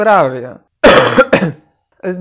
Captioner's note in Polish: kaszl